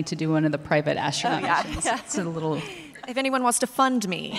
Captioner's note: laughs